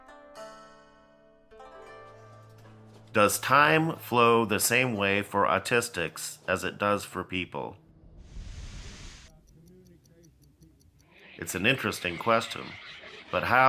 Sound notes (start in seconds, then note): 9.2 clock ticking